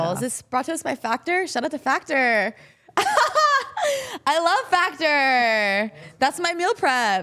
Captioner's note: laughs